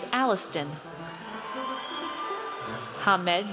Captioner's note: audience cheers